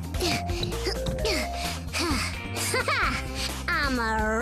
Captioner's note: breathes heavily